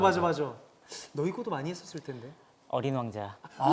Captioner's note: sigh